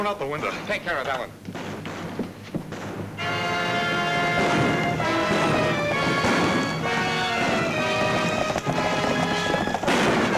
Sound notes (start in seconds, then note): 1.5 guns bang; 3.2 exciting music